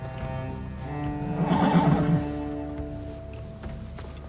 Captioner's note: horse blusters